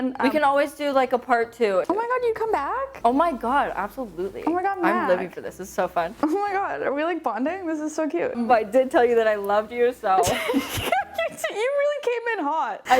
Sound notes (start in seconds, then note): 10.2 laughing